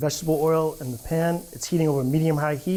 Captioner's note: meat sizzling